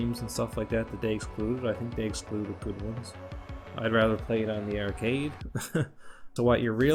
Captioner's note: laughs